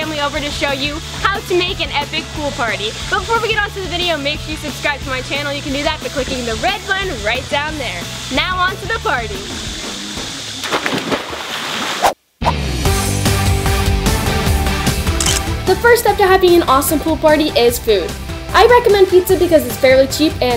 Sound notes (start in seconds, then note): 8.9 splashing; 9.6 upbeat music; 12.2 whooshing; 13.3 upbeat music; 15.2 camera shutter clicks